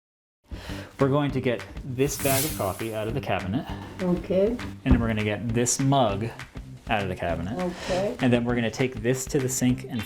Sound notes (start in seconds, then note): 2.0 air whooshes